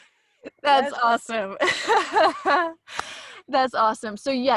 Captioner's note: laughs